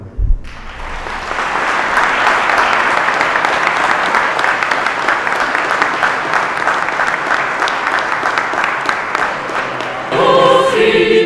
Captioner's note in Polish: oklaski